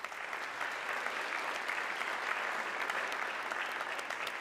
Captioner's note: audience clapping